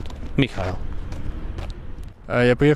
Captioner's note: laughs